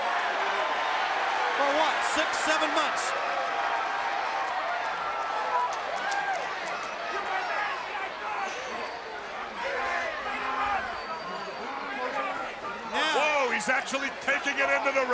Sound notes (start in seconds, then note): 0.0 crowd cheering; 3.7 crowd cheering